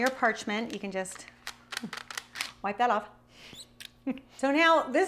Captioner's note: chuckles